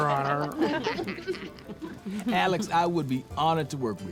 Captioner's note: all chuckling